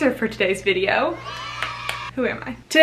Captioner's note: cheering and applauding